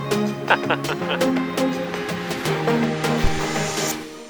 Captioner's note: laughs